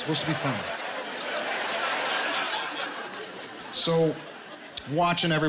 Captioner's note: laughter